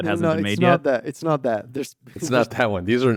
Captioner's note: laughs